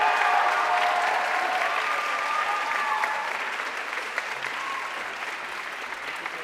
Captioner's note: audience cheering and applauding